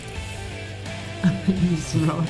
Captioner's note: giggling